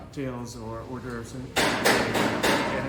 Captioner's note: hammer pounding